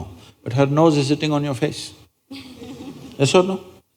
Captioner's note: laughter